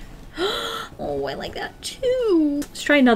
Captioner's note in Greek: Κοφτή ανάσα